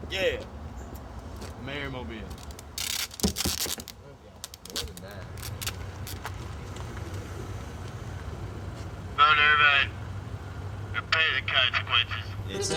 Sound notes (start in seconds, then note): 2.3 tape being pulled off the roll